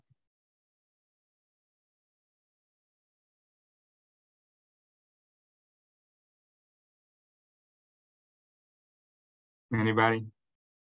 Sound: silence

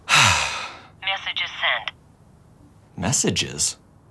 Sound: on phone

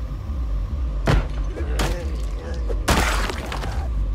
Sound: moans of infected; wet crunching sound

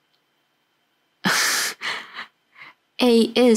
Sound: chuckles

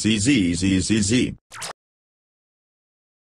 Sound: laser Sound

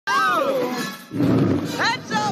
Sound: scream

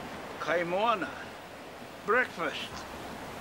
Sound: speaking foreign language

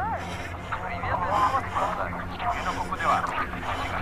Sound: distorted speech

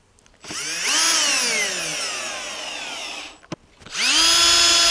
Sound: screwdriver whirring

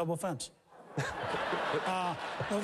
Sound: laughter

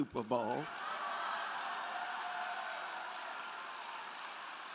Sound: crowd laughing

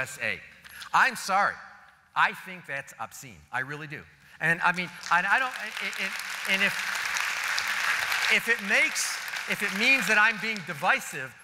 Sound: applause

